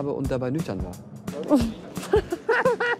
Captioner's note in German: Lachen